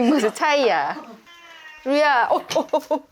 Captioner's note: meow